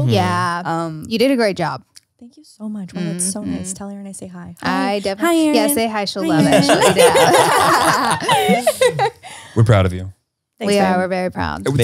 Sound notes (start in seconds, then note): 6.3 everyone laughs